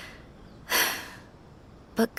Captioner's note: sigh